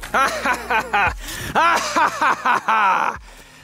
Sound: laughing

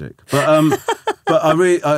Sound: laughing

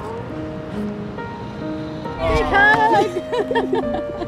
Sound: laugh

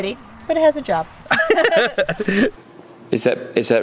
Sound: both laughing

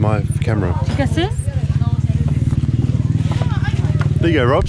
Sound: talking in foreign language

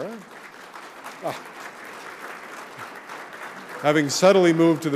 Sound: audience applauding

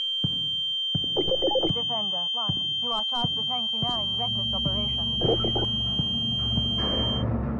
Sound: ear ringing; radio, faintly

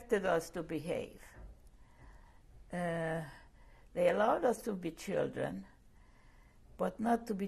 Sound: pauses for 3 seconds

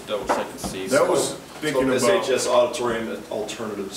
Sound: murmurs

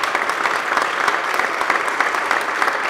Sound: applause

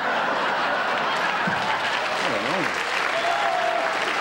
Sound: audience laughter

